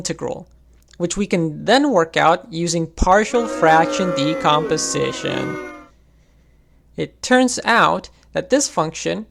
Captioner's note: boo